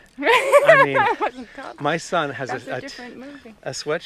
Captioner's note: Lisa laughs